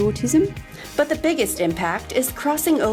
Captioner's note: voiceover